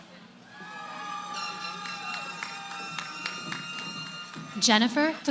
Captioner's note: cheering